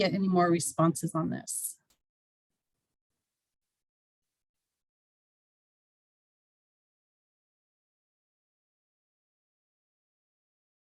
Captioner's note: silence